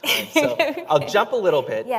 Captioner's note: chuckle